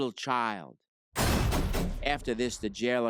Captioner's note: door slams